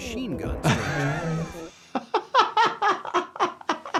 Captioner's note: laughing